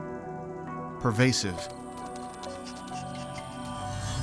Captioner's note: sniffing